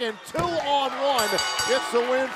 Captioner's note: bell ringing